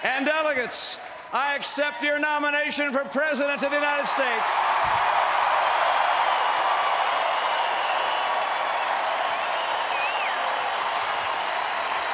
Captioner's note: applause